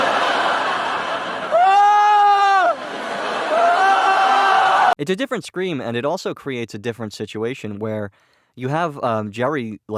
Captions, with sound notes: AHHHHHHHHHHHHH [laugh track] AHHHHHHHHHHHHHHHHH - It's a different scream, and it also creates a different situation, where you have, um, Jerry,